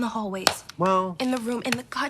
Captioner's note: hand smacks